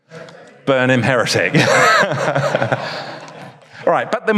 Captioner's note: audience laughs; laughs